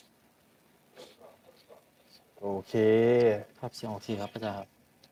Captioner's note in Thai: เสียงสูดหายใจ